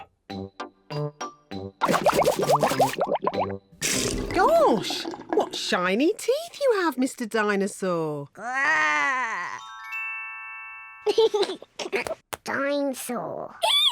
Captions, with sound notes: (BUBBLES) Gosh, what shiny teeth you have, Mr. Dinosaur. Grrr! (GIGGLES) Dinosaur.